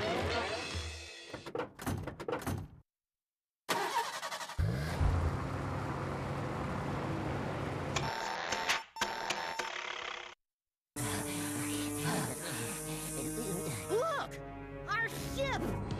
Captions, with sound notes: [engine starts] [beeping] [engine sputtering] LOOK! OUR SHIP!